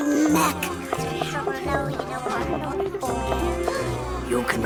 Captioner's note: class murmuring